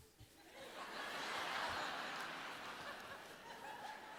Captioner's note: crowd laughs